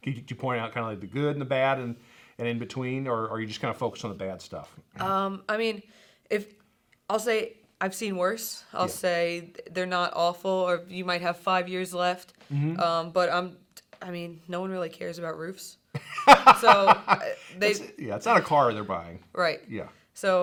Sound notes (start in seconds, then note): 15.9 laughing